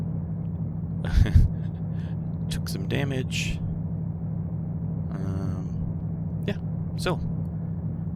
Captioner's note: laughs